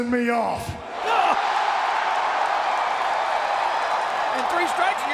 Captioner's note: audience cheering